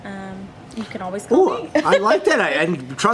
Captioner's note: laughs